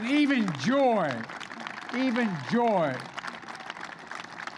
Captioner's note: applause